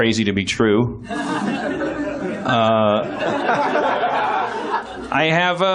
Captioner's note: laughs